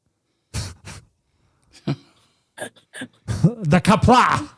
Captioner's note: laughing